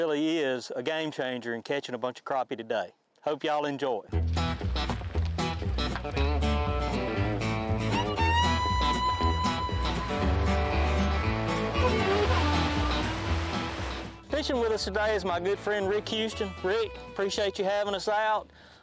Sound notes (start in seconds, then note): 4.8 fiddles; 4.8 upbeat music